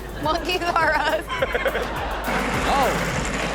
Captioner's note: Sterling laughing